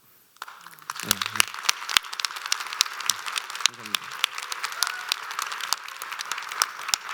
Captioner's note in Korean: 박수